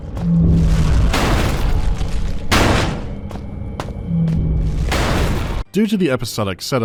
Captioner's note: loud bashing